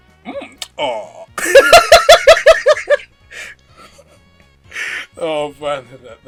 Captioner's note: bursts out laughing